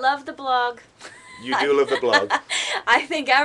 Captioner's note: laughter